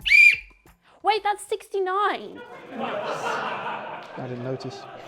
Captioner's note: blows whistle; laughter